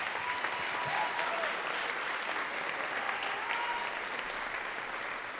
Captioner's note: audience cheering and clapping